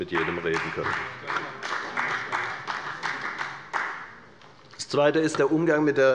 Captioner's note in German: Beifall bei der FDP